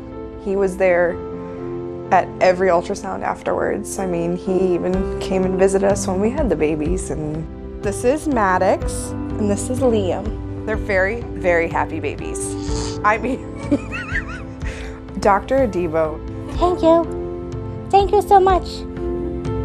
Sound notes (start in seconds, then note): 12.5 baby grunts; 13.3 laughs